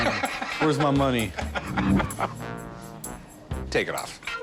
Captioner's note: laughter